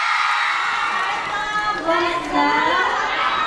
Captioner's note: cheering